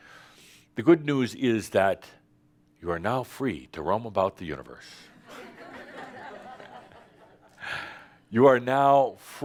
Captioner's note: laughter